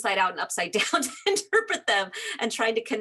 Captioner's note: laughing